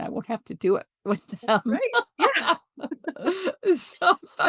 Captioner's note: laughs